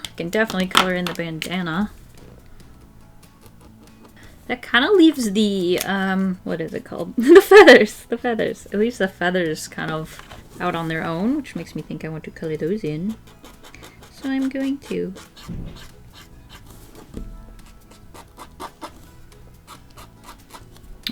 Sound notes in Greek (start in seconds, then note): 7.2 Γέλια